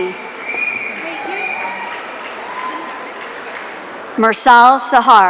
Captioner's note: audience cheering